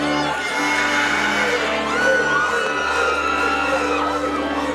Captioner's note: audience cheering